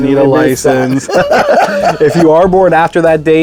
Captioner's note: laughing